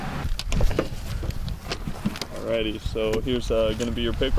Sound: thudding

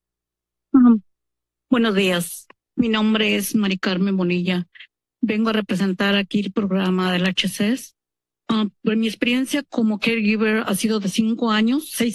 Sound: foreign language

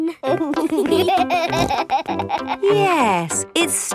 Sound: laughing

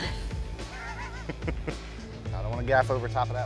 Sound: laughs

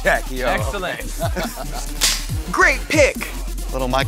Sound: laugh

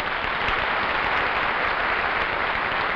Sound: crowd applauds

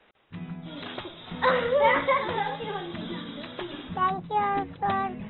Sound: children laughing

